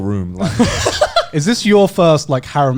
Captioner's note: laughs